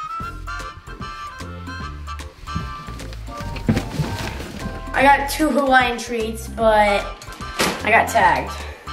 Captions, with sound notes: (rustling) - I got two Hawaiian treats, but I got tagged.